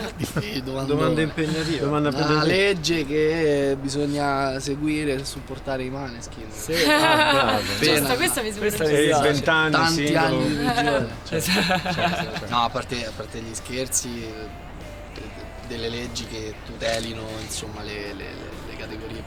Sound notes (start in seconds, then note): 6.7 laughter; 10.4 laughter